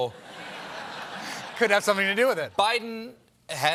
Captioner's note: laughter